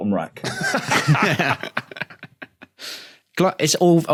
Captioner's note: laugh